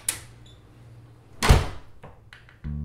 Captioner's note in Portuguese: porta bate